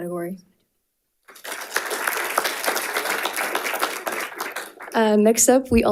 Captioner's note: audience applauding